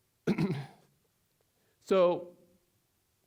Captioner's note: clearing throat